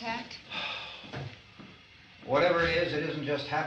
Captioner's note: Harry sighs